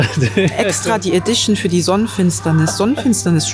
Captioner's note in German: gelächter